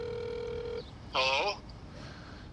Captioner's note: on phone